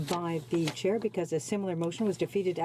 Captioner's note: speaking French